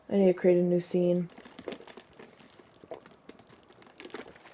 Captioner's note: ice rattling; gulp